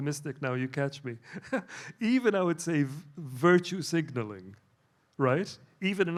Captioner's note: laughs